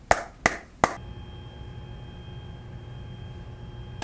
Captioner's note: feat. boiler sound